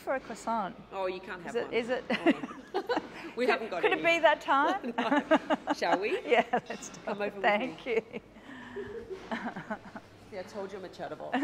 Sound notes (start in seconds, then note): 2.1 laughs